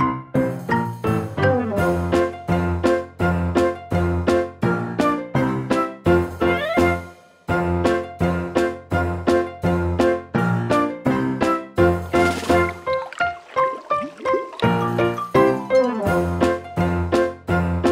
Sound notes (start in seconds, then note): 12.0 water burbles; 12.9 bright music